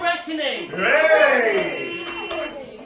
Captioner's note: cheering; motor car horn toots